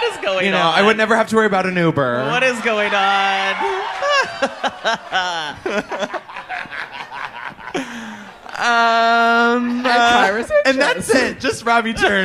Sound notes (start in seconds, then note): 3.5 laughs